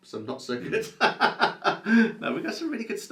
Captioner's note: laughs